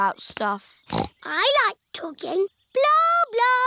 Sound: snorts

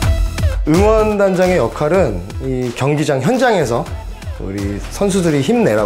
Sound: speaking in foreign language

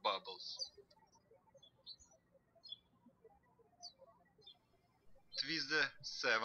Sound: birds chirping

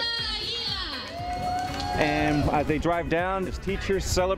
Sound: crowd cheering

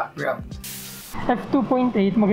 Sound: static sound

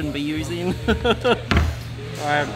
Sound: laughs

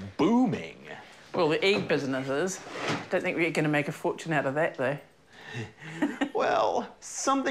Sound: chuckles

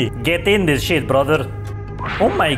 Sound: none

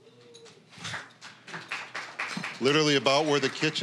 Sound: applause

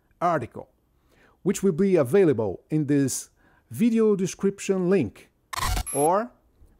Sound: electronic sounds

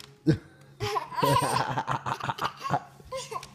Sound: laughter

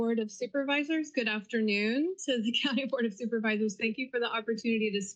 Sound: giggle

